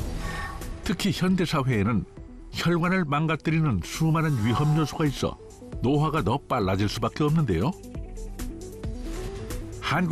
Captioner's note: voiceover